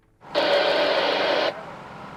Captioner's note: radio static